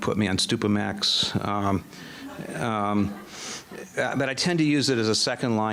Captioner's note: audience laughing